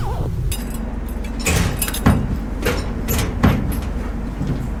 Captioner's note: metal clanking